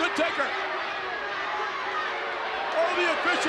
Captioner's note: crowd boos